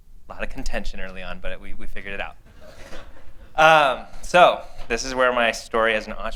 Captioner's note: laughter